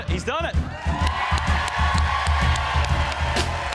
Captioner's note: cheers and applause